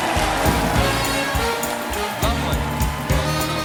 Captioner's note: cheers and applause